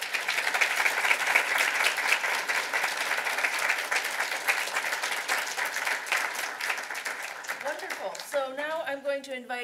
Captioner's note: applause